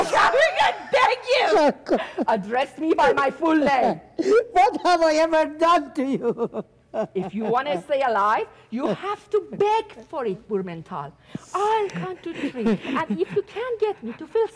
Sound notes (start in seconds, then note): 7.1 doctor softly sobbing